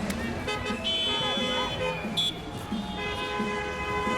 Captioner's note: car horns honking